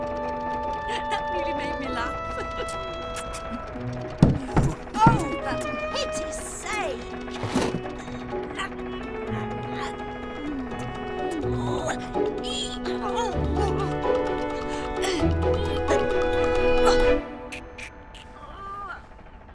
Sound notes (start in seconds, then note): 0.8 laughs; 3.1 kissing noises; 10.2 kissing noises